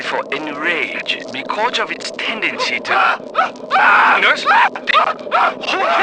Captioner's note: mr. wallace starts screaming